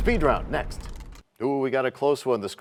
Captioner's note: crashing sound